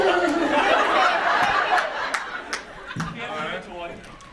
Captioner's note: audience laughs